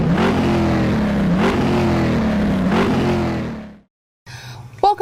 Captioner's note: car engine roaring